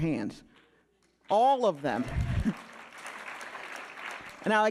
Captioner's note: audience applauding